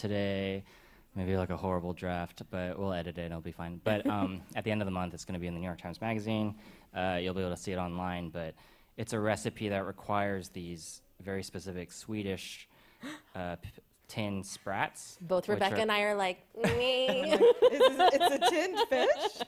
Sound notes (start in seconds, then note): 3.9 chuckles; 13.2 gasps; 16.6 laughs